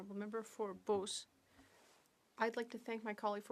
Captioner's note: speaking French